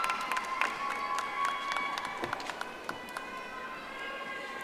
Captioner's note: audience applauding